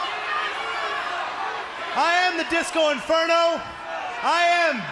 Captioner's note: crowd chatter